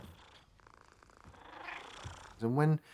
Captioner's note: purring